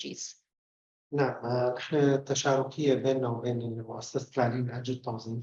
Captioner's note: speaking arabic